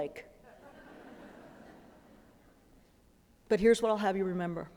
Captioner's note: laughter